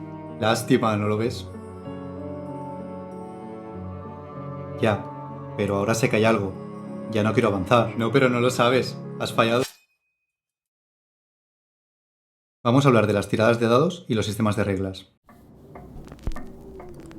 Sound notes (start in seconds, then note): 9.4 sound of sword being drawn